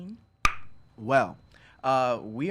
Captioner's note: Jonny pops his lips